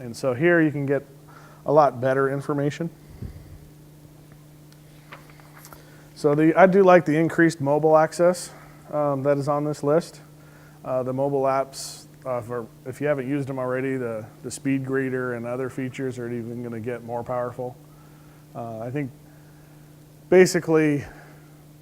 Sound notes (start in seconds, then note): none